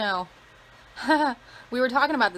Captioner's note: laughs